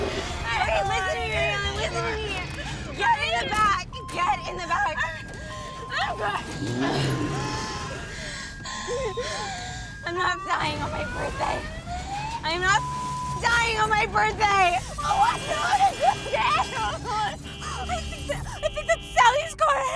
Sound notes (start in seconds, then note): 6.4 growling; 6.4 breathing heavily; 14.8 horn honking